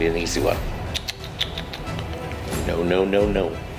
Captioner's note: tuts